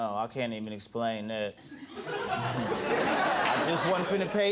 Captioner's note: audience laughing